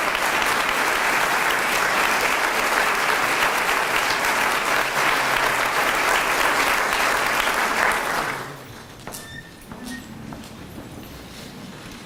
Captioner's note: applause